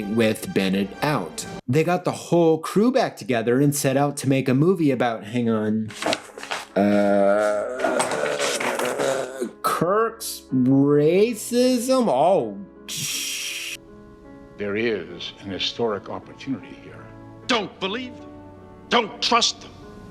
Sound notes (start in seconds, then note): 5.9 flipping papers